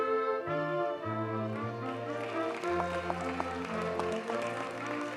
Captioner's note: audience cheers and applauds